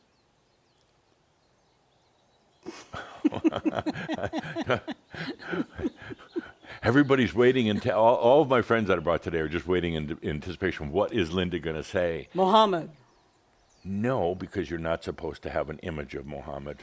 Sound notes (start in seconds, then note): 0.7 slight pause and they chuckle